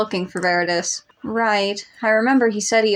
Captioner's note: none